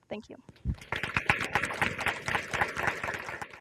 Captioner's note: audience applauding